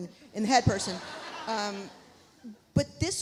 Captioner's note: audience laughs